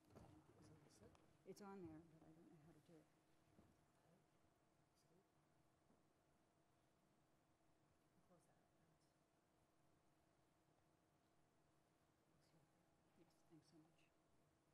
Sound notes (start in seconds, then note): 0.3 voiceover; 3.6 voiceover